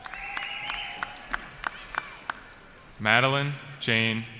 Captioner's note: cheering